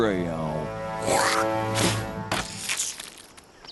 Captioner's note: spit